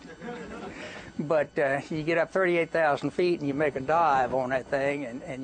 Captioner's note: laughter